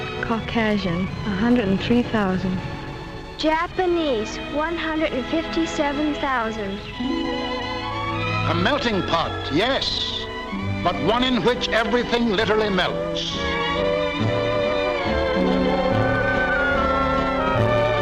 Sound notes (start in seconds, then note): 8.8 voiceover; 13.7 lighthearted music